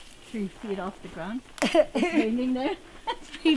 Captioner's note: laughter